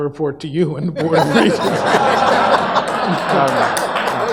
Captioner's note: audience laughs; audience applauds